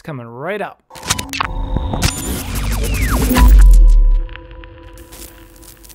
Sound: radio-frequency interference

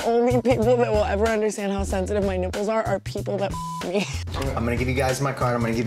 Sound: beep

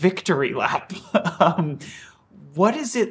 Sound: chuckles

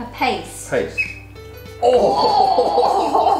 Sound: spoon scratches against bowl

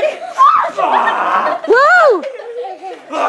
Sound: groaning

